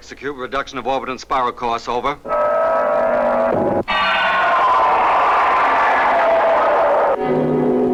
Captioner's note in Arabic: موسيقى غريبة; هدير محرك الصاروخ